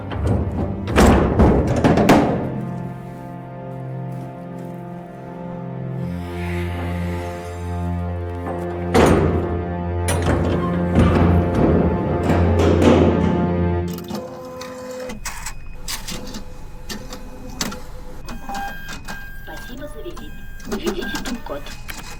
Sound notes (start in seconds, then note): 0.0 latch clunks; 6.2 dock worker sighs; 10.0 door slams; 11.3 latch clunks; 14.1 computer whirs and clicks